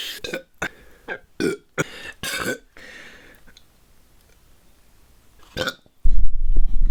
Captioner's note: rhythmic belch montage